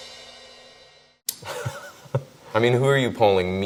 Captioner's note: laughs